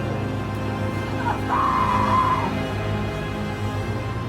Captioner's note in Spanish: Anna grita